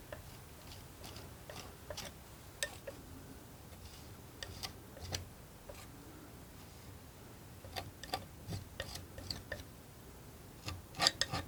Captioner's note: tapping